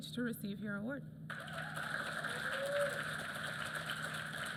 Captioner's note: applause